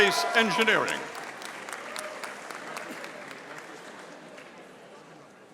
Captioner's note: audience applauding